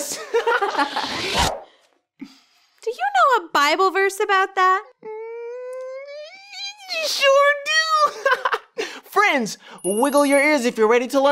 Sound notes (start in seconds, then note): 0.2 giggles; 8.1 man giggles